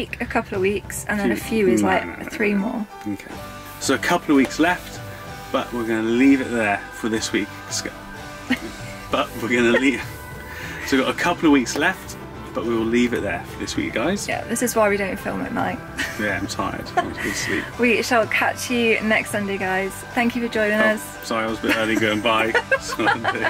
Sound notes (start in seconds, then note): 8.4 laughing; 8.5 stumbles over words; 23.2 both laughing